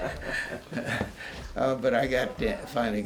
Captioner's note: laughter